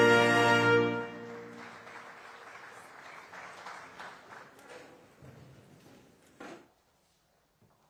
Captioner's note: applause